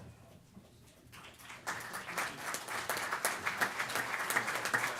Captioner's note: applause